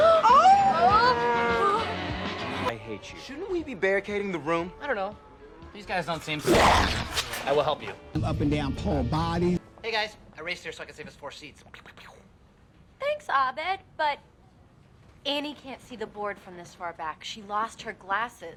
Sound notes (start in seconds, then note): 0.2 shirley and annie gasp; 6.4 zombie makes a zombie noise